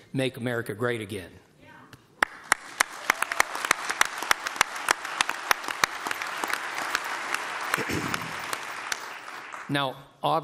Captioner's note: applause